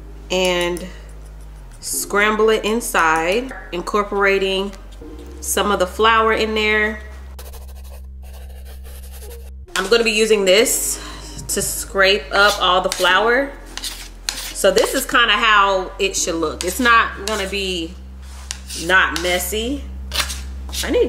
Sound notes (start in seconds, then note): 7.1 muffled gentle music; 7.3 chalk brushing